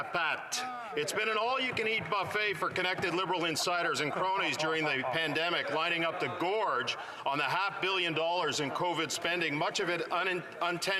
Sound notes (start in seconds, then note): 4.2 speaking French